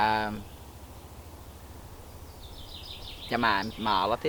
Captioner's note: very loud birds chirping